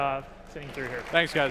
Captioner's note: applause